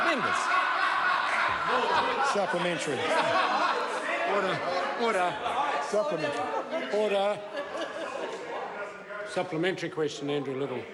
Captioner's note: members laugh